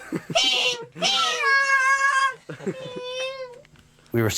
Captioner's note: squealing; band member laughing